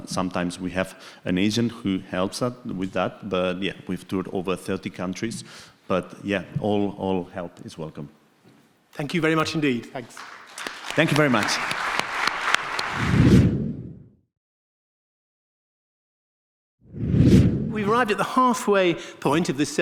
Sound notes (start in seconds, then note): 9.9 audience clapping; 13.0 air swooshing; 16.9 air swooshing